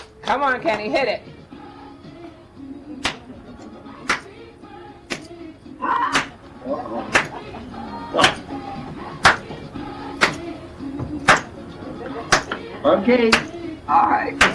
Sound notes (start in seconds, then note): 2.1 cheerful music; 4.1 participants clapping